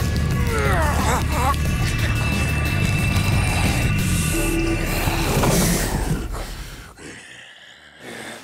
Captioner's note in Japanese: うなり声